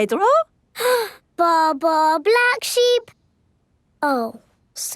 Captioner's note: inhales